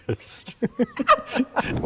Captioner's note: all laugh